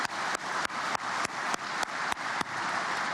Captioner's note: applause